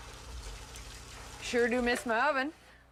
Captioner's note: egg sizzles